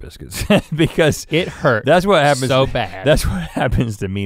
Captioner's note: chuckles